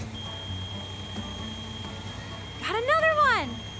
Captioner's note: excavator beeping